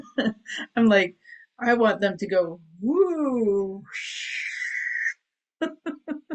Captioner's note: chuckles